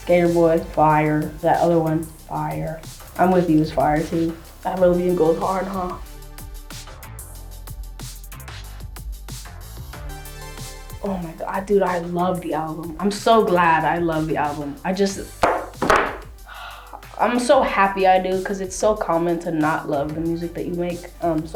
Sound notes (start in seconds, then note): 16.4 sighs